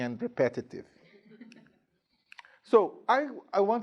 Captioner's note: students chuckling